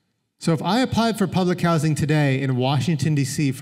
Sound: none

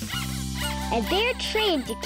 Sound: squeaking

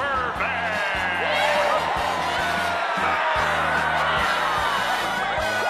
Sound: wild cheering; whooping

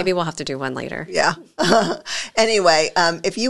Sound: laughs

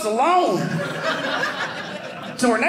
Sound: audience laughing

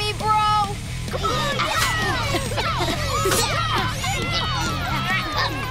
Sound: chanting

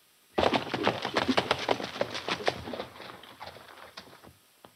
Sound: hooves clopping

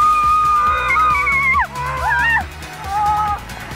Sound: both screaming

